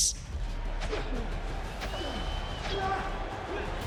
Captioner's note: gladiators grunting